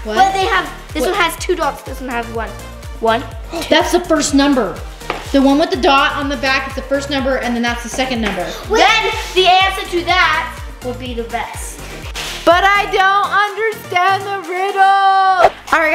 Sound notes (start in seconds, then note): 3.4 gasps